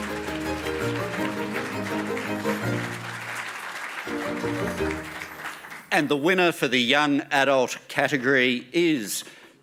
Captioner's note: applause